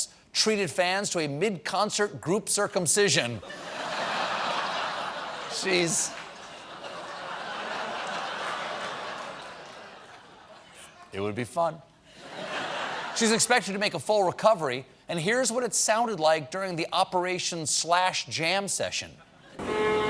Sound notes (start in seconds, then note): 8.1 audience reacts; 8.1 laughter; 14.4 laughter